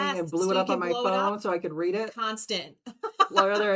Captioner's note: laughs